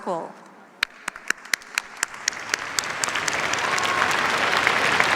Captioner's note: applause